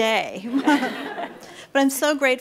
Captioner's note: audience laughs